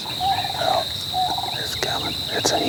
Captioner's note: whispering